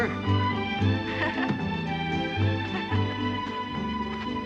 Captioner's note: laughter